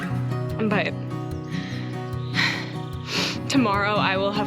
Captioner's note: birds chirping